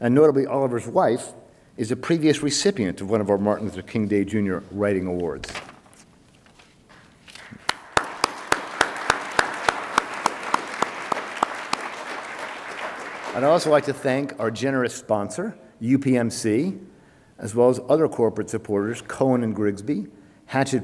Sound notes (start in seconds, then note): 7.4 attendees applaud